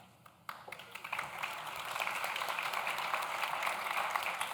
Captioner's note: audience claps